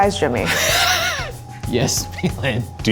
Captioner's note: laughs